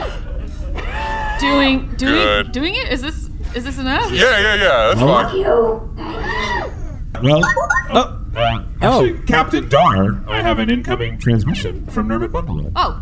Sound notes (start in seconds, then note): 7.4 incoming transmission beep-boops